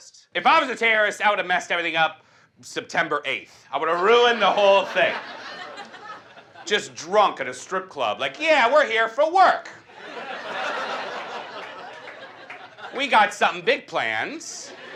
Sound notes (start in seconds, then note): 9.8 audience laughs